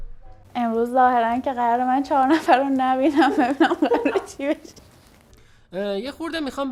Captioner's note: laughing